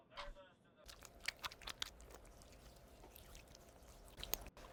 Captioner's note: hands rubbing